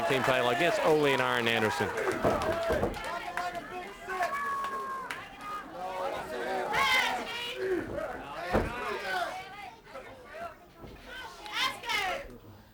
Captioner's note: crowd chatter